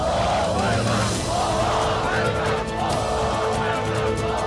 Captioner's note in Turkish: Hep bir ağızdan